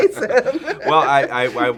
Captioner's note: laughing